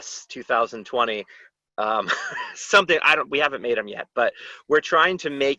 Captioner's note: laughter